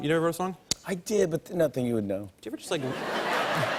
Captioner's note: laughter